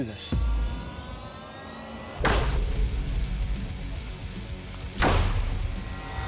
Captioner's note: banging